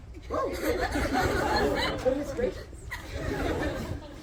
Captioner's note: crowd laughs